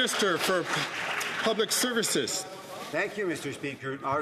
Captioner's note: some Applause